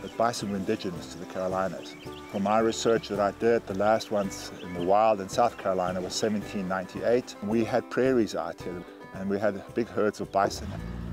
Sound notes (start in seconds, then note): 2.5 birds chirp; 10.9 motor rumbles